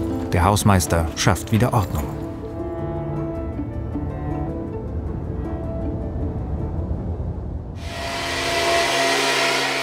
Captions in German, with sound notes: Der Hausmeister schafft wieder Ordnung. (Maschinengeräusch)